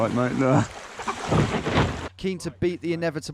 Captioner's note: laughing